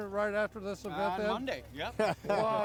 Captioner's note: everyone laughs